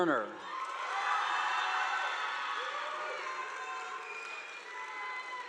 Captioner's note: audience applauding